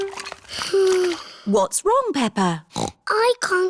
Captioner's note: sighs; snorts